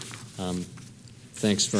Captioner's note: paper Rattling